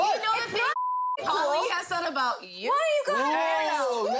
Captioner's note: beep